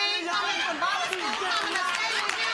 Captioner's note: applause